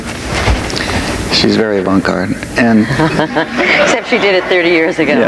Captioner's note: laughs